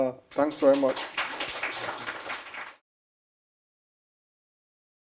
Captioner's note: applause